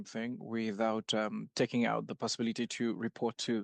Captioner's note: speaking French